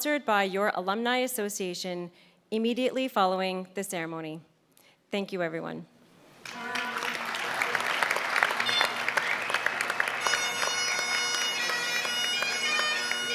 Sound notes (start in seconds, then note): 7.9 applause; 12.3 bagpipes playing